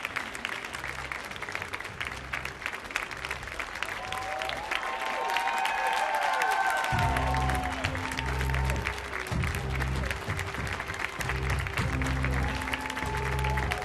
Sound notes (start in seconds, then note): 4.2 audience cheers; 6.9 resolute music